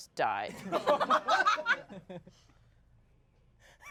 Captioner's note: everyone laughs